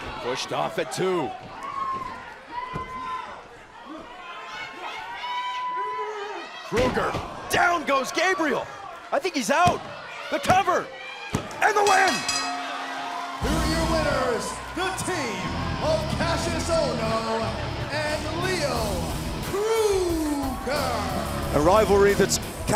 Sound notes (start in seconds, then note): 11.8 bell ringing